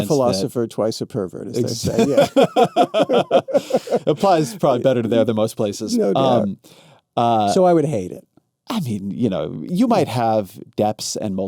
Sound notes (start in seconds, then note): 3.4 both laughing